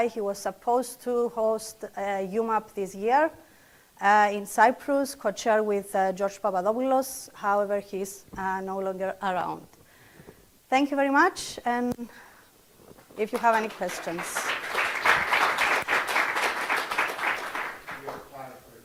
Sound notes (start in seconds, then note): 13.3 audience applauding